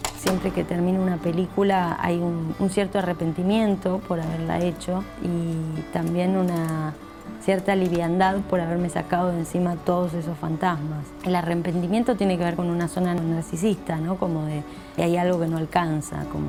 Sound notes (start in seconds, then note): 0.2 projector rolls; 7.4 projector clicks